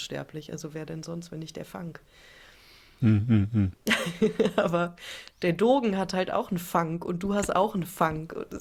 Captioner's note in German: gelächter